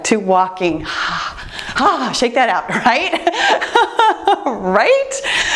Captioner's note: laughs